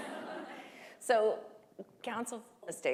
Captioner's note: laughter